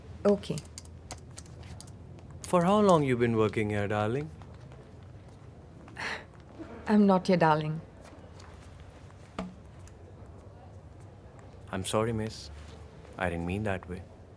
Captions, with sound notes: Okay. (Wallet rustling) For how long you’ve been working here, darling? (Scoffs) I'm not your darling. I'm sorry, miss. I didn't mean that way.